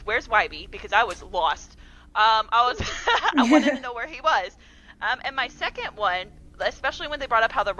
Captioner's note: laughter